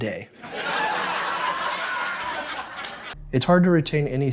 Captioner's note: crowd laughing